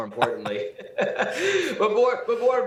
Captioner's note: both laughing